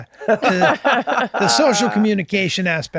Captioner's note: laugh